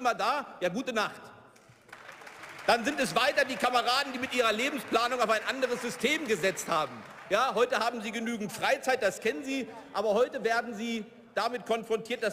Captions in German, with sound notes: Für die waren Sie immer da? Ja, gute Nacht. (Beifall) Dann sind es weiter die Kameraden, die mit ihrer Lebensplanung auf ein anderes System gesetzt haben. Heute haben sie genügend Freizeit, das kennen sie. Aber heute werden sie damit konfrontiert,